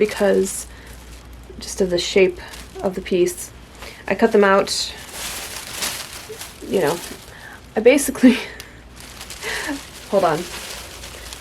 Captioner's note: laughs